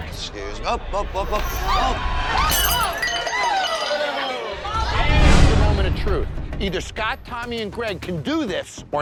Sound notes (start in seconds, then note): 1.7 screams; 2.4 glass shatters